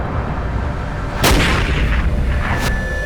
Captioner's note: gunshot